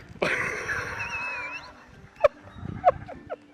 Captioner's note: man laughing